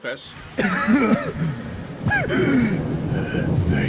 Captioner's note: painful coughs